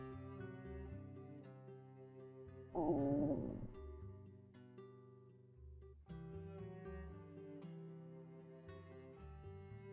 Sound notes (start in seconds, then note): 2.7 growls